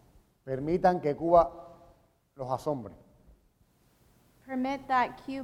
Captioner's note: speaking in Spanish